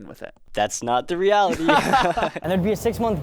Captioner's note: both laughing